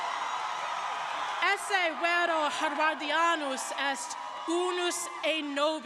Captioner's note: speaks in Latin